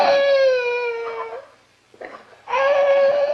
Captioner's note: crying